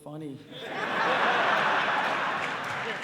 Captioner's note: laughter